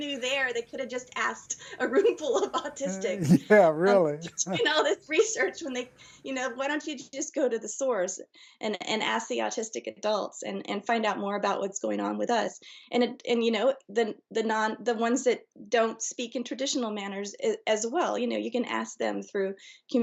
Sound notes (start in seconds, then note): 2.4 chuckles